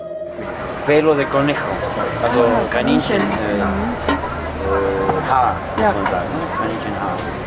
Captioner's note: in Spanish